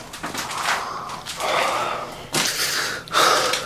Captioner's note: Miles pants